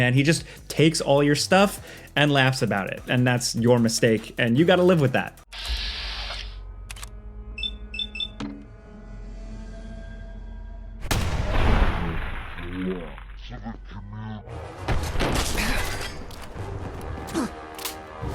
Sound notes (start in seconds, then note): 5.7 equipment whirs and beeps; 11.0 gunshot booms; 14.9 dramatic music; 14.9 mechanism clicking